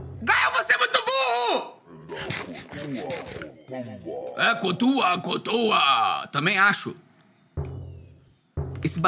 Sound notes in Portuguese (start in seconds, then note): 2.1 som de comer no minecraft; 7.6 som de batidas